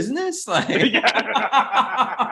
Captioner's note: both laughing